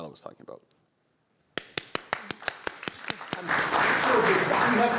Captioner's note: applause